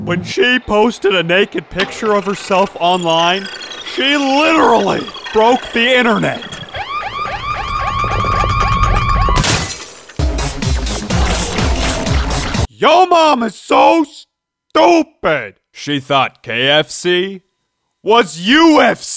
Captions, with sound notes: When she posted a naked picture of herself online she literally broke the internet. (sirens) (techno music) Yo mama so stupid she thought KFC was UFC for chickens.